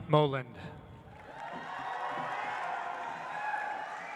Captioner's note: audience applauds